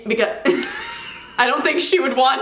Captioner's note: giggles